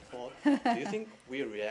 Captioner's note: laughter